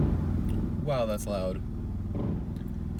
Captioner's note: motorcycle engine revs